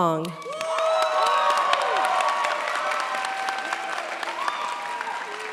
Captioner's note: cheers, applause